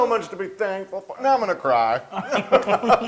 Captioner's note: laugh